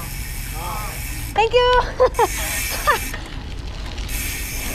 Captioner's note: laughs